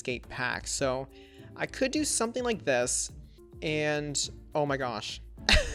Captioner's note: chuckles